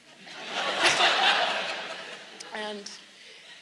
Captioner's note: audience laughs